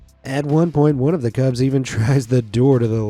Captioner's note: none